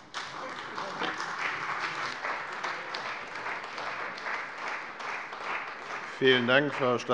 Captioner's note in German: Beifall bei der CDU und dem BÜNDNIS 90/DIE GRÜNEN